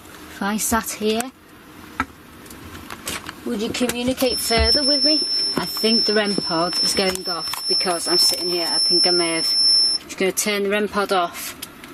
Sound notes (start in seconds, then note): 4.1 REM Pod beeping